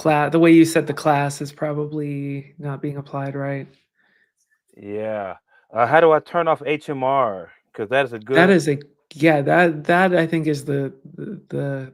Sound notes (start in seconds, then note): none